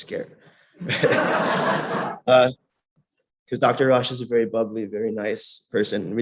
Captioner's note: laughter